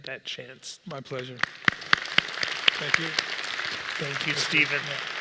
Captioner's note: applause